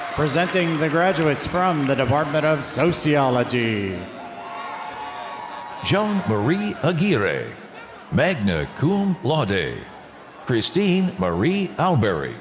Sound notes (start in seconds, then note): 4.8 audience cheering